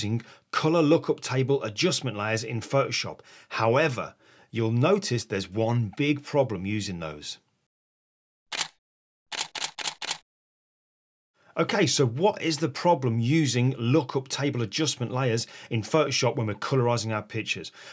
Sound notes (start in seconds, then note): 9.3 shutter clicks